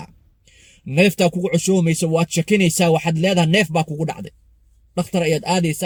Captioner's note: respiratory distress